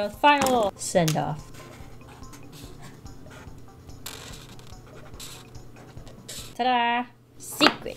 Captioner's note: marker writing